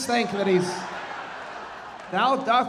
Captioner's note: audience laughing